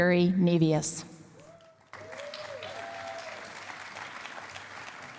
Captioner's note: cheering and applause